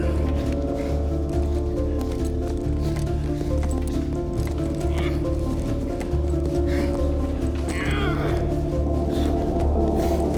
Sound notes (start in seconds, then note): 7.6 grunting